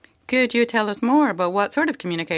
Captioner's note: speaking French